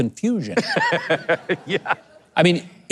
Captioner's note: laughs